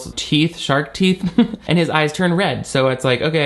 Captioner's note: chuckles